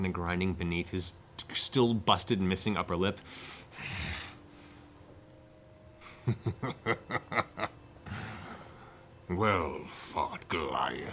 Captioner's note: snarls, laughs; groans